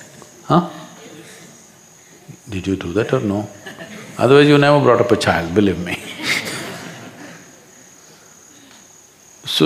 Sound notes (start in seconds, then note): 0.0 few laugh; 5.9 laughter; 8.6 笑聲